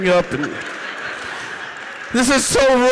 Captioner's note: audience laughing